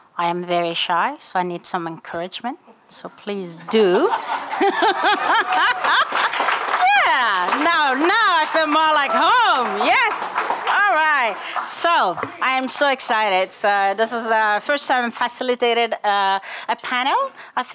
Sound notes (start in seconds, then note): 3.8 audience laughing; 6.1 audience applauding